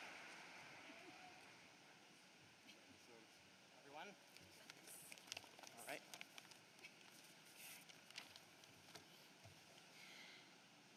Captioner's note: applause